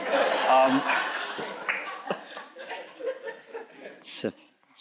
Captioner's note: audience chuckles